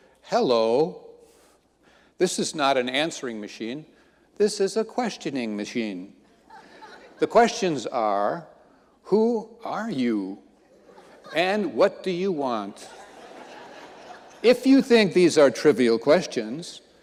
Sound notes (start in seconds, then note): 6.5 audience laughing